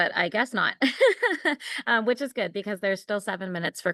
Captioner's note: laughter